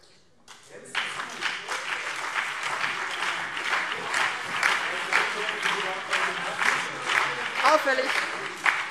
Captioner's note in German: Beifall BÜNDNIS 90/DIE GRÜNEN und CDU - Zurufe AfD